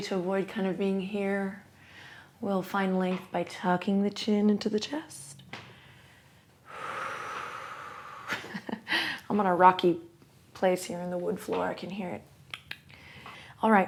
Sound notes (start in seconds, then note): 5.6 exhales; 8.4 chuckles